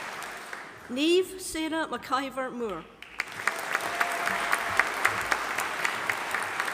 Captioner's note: audience applauding